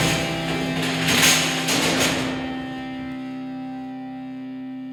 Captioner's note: metal scrapes